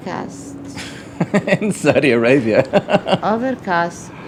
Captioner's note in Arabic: يضحك